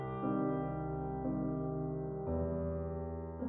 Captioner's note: none